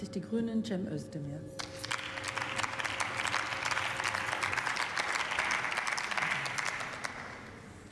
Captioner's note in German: Beifall